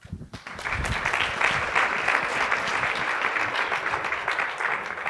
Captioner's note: audience applauding